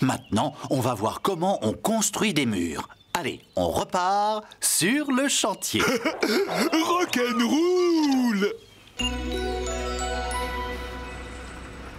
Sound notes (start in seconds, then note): 5.7 chuckling